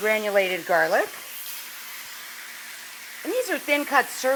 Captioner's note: pan sizzling